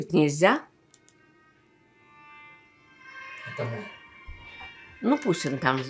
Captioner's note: phone ring